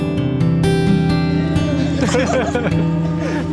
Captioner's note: laughing